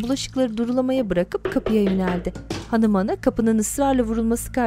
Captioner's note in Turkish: Kapı vurulma sesi